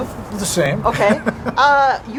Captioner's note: laughing